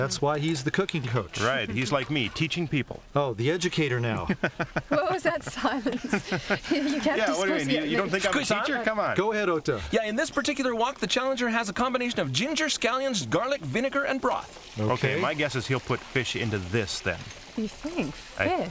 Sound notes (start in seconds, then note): 4.2 chuckling; 4.2 laughter